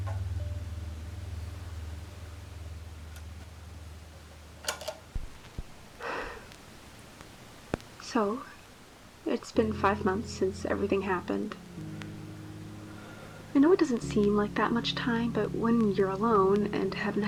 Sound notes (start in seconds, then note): 4.5 click; 6.0 sigh